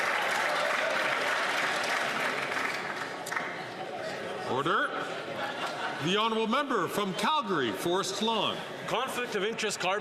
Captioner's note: some Applause